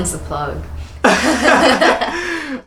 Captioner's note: laughs